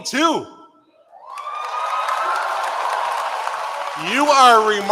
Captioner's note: cheering